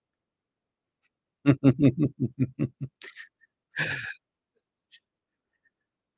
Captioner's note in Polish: śmiech